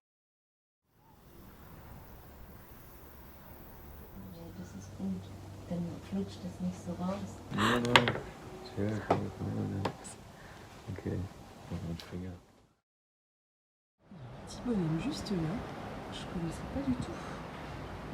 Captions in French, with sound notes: (parle en allemand) Y'a un petit bonhomme juste là, je connaissais pas du tout